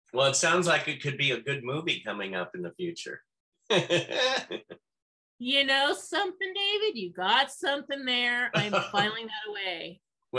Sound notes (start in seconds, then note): 3.7 laughs; 8.5 laughs